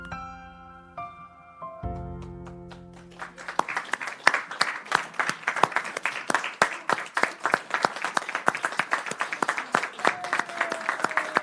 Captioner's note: applause